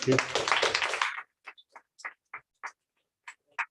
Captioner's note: applause